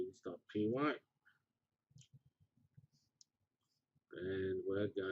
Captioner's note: pause